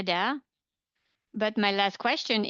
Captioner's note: speaking French